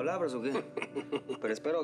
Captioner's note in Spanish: risas